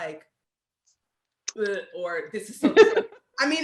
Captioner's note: gags